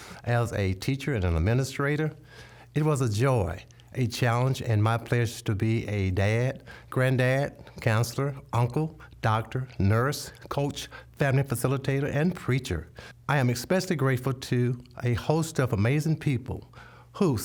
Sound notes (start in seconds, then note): none